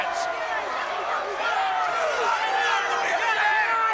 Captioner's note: crowd yelling